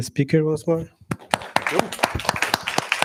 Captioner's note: applause